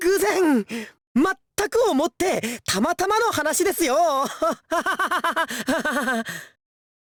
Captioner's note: awkward laugh